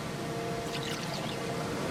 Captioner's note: liquid pouring